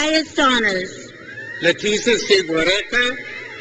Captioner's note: crowd cheers